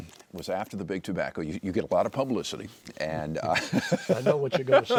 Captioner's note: laughs